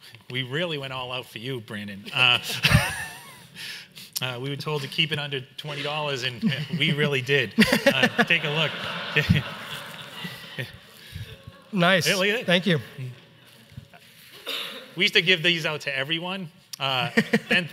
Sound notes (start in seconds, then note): 2.4 laughs; 7.5 everyone laughs